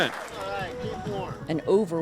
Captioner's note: cheering